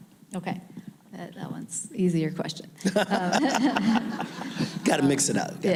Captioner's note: laughing